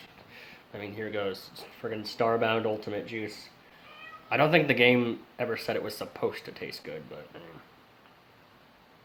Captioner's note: cat meows